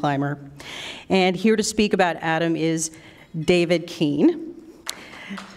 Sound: applause

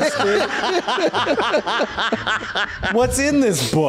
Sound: laughs

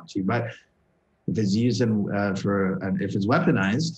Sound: stutter

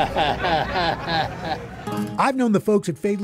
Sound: chuckles

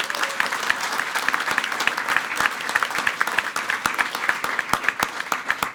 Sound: everyone applauding

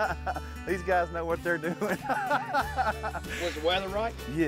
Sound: laughs; laughs

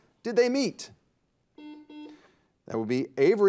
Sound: buzzer dings

